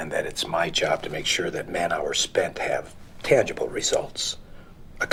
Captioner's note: none